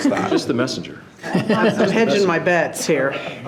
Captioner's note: laughs